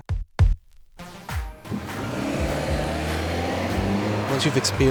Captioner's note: car engine